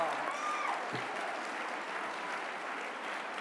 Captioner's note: applause